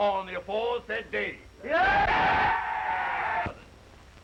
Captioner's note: crowd cheering